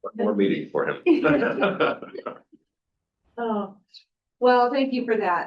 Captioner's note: trustees chuckling